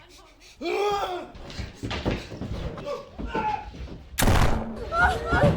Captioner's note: man grunting; gun blasting; people crying